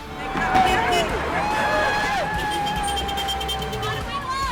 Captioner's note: horn tooting; protestors cheering